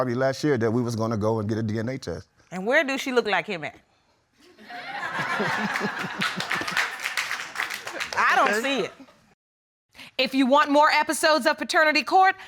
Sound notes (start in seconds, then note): 4.6 audience laughs; 5.1 laughs; 5.2 audience applauds